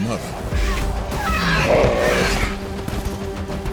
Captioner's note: tyrannosaurus squeals; Triceratops bellows